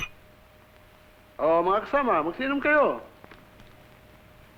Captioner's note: non-english speech